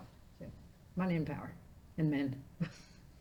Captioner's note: laughing